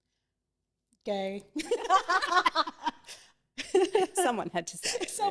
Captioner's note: everyone laughing